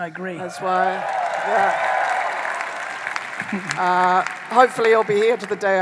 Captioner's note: audience applauding